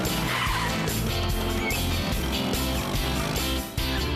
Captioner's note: laughing; brakes Screech; revving Engines